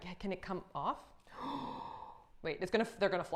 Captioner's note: gasps quickly